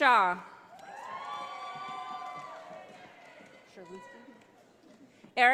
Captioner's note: audience applauding